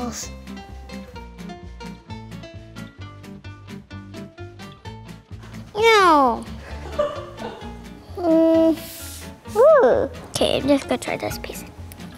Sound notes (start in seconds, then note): 0.3 whimsical instrumental music; 6.6 laughs